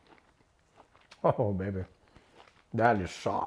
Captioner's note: laughs